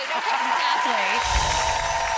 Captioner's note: audience cheering; soft chimes